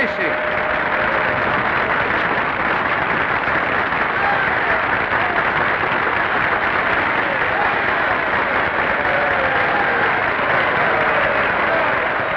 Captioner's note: applause